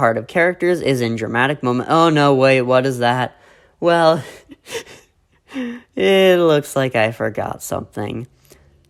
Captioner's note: chuckles nervously